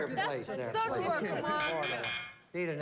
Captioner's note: buzz buzz buzz